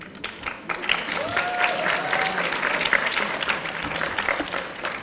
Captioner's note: audience applauding